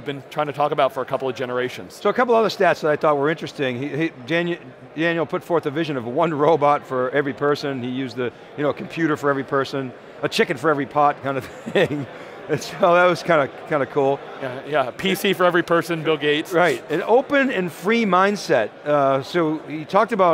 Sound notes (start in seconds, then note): 11.4 laughs